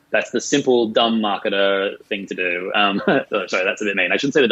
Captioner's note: laughing